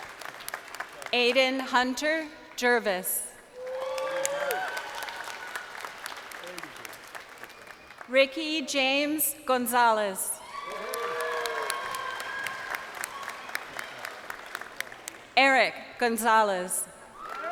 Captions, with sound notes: (crowd cheering) Aiden Hunter Gervais. (crowd cheering) Ricky James Gonzales. (crowd cheering)